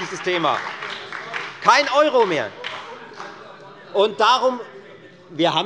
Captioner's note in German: Beifall bei der FDP und der SPD